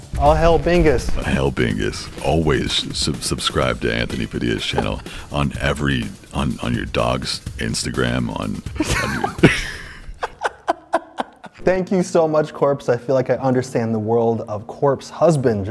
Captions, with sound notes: All hail Bingus. -Hail Bingus. Always subscribe to Anthony Padilla's channel, on every-- On your dog's Instagram on-- -[laughs] Thank you so much Corpse. I feel like I understand the world of Corpse Husband